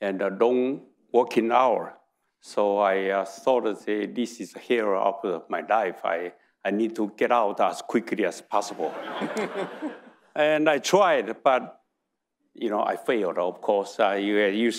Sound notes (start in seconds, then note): 8.6 audience laughing